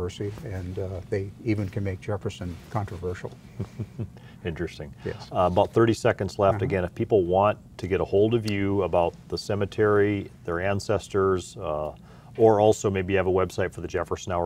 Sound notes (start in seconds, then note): 3.6 laugh